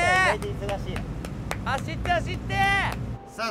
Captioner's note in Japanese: 手拍子